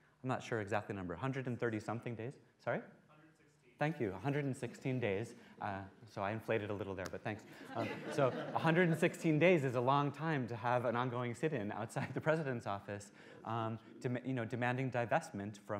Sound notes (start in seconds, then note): 7.5 laughter